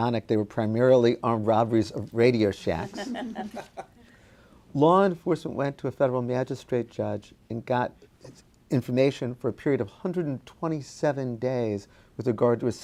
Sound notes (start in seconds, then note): 2.9 panel chuckling